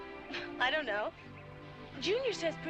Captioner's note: chuckling